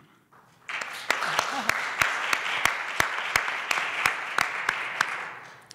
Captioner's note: applause